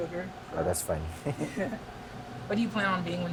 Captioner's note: chuckling